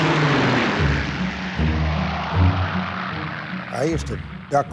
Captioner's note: jet engine roaring